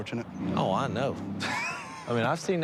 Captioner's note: laughs